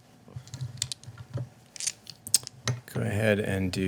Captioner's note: dice rolling